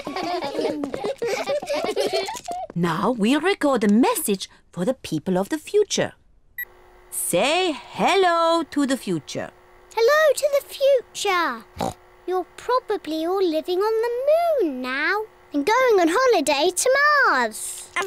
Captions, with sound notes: (ALL LAUGH) Now, we record a message for the people of the future. Say hello to the future. Hello to the future. (OINKS) You're probably all living on the moon now. And going on holiday to Mars.